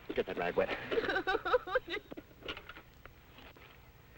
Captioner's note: Pat sobbing